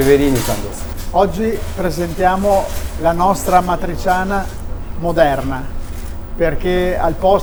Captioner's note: Italian